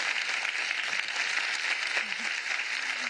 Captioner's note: applause